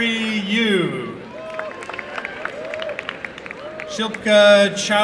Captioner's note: applause and cheering